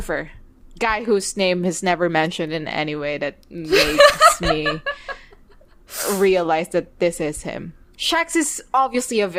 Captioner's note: laughing